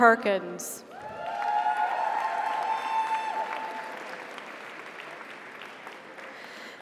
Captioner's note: audience cheers; audience applauds